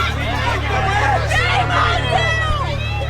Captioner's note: crowd shouting